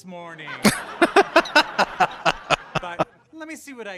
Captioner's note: laughing